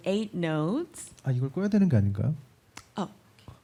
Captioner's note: speaking korean